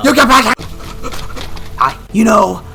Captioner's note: rapid panting